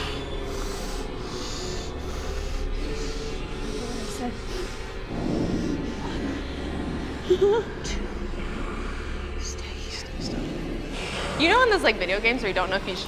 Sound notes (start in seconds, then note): 0.4 actor sniffing; 4.6 whimpering; 5.0 monster growling